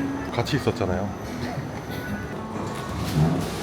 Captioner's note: chuckles